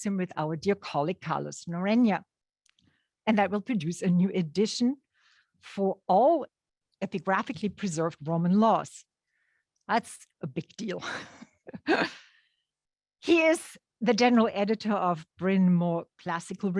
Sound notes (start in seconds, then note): 11.0 chuckles